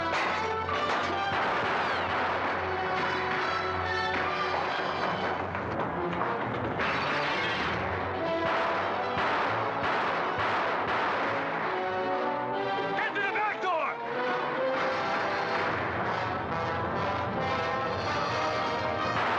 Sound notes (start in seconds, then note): 0.1 glass breaks; 1.2 dramatic music; 1.2 gunfire; 6.7 glass breaks; 8.0 dramatic music; 8.0 gunfire; 14.1 suspenseful music; 18.6 gunfire; 19.1 dramatic music